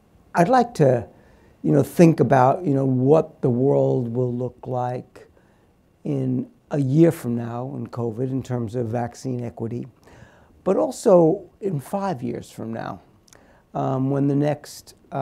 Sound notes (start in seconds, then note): none